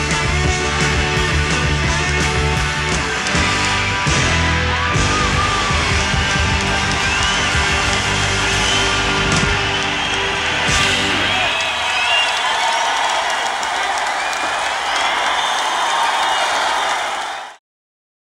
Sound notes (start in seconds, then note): 0.1 upbeat guitar music; 3.4 upbeat guitar music fades; 5.8 crowd cheering